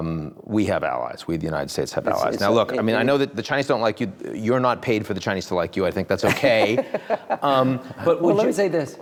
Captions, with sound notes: We have allies, we, the United States have allies. Now, look, I mean I know that the Chinese don't like you. You are not paid for the Chinese to like you. I think that's okay. (Rahm chuckling) - Well, let me say this,